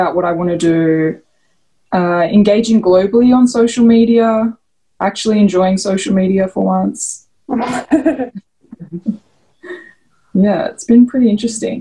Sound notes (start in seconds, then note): 8.7 laughs